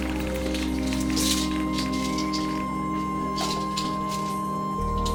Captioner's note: pills rattling